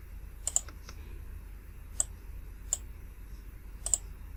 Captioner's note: mouse clicks